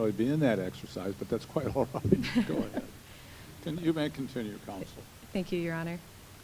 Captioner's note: laughter